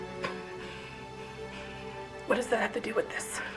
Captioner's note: Macy gasping